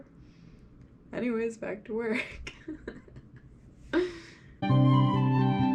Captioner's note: laughs